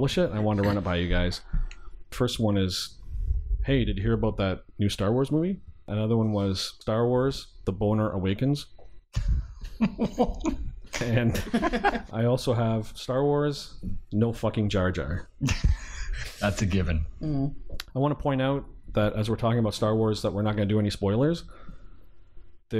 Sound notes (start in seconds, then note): 9.4 laughter